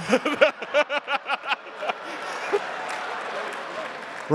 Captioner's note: laughing